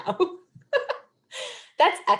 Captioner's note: chuckles